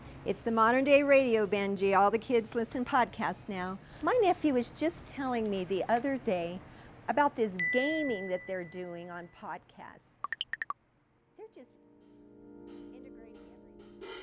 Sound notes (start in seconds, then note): 8.0 notification dings